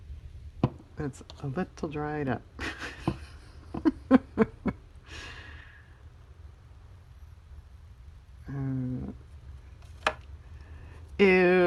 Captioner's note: laughs